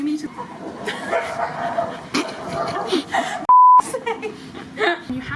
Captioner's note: bark